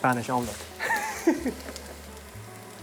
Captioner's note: laughs